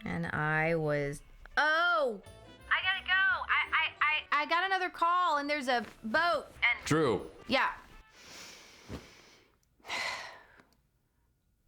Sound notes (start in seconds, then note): 9.8 sighs